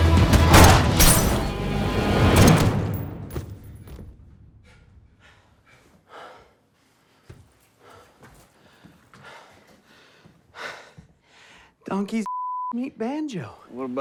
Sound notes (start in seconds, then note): 0.2 gunshot popping; 0.3 glass breaking sound; 2.1 gunshot cracking; 4.5 O'Donnell's heavy breathing; 12.2 beep